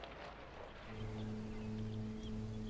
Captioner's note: birds chirping